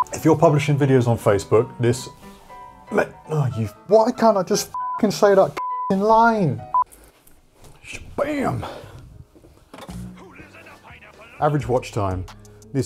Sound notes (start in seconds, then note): 4.7 beep; 9.1 television plays